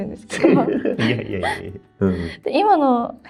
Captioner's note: laughs